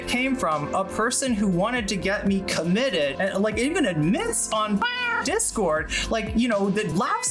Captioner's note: meow